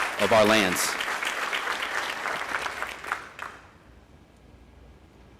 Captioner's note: audience applauding